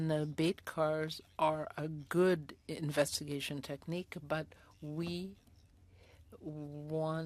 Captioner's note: speaking French